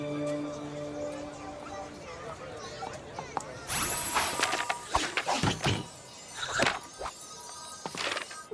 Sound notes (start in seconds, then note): 3.7 tinkling